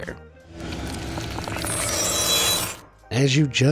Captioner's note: flesh crunches, sword schwings